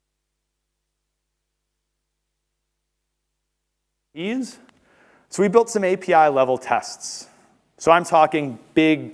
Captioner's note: audio cut